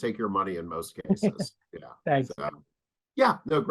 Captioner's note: chuckling